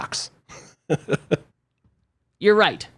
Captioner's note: laughs